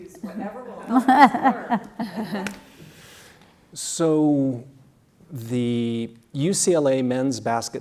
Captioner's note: laugh